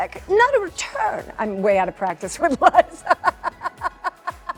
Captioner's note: in normal voice; laughs